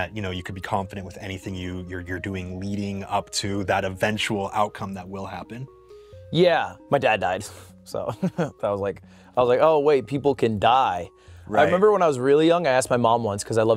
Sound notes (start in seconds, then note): 8.1 chuckles